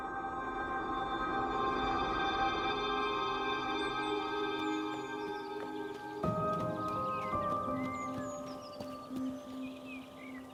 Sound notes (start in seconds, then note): 0.3 tense music; 3.6 birds chirping; 6.6 dramatic orchestral music